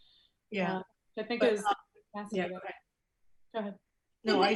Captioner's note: overlapping chatter